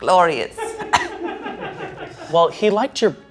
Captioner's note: crew members laughing